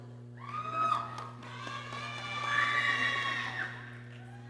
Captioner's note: people cheering